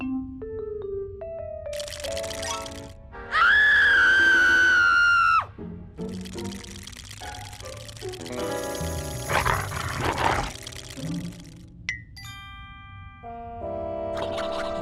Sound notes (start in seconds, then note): 1.7 teeth chattering; 3.3 screams; 5.1 shivering; 9.2 growls